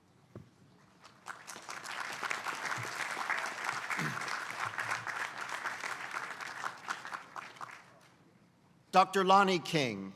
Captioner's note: applause